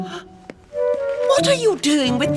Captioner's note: gasp!